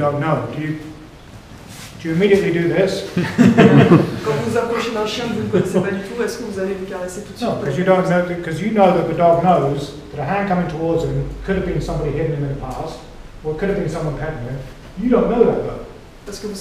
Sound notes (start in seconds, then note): 3.1 laughter